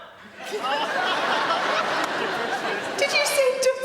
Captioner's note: audience laughing